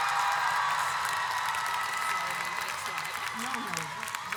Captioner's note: audience cheers